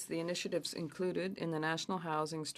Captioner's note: speaking French